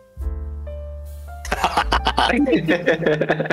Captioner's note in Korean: 악당의 웃음소리